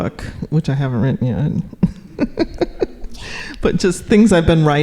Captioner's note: laughing